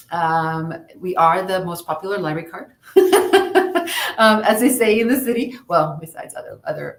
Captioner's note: laughs